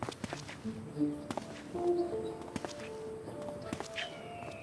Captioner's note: footsteps